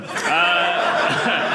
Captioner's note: audience laughing